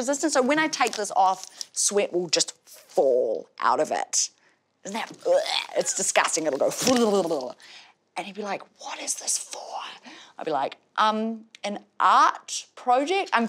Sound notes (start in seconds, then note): 5.0 wretches